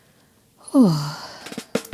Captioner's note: sighs; upbeat music